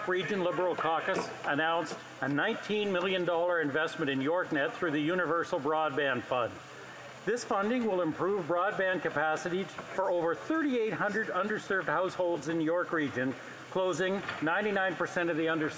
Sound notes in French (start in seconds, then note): 1.7 voix de l'interprète